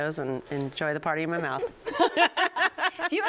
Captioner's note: laughter